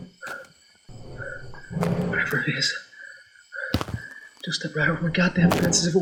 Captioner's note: heavy breathing and snorting